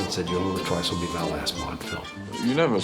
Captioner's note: echoing